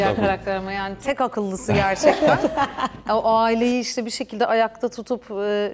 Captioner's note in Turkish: kahkaha